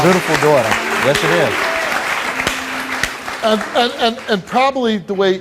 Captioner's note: audience applauds